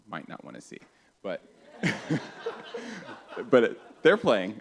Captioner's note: laughter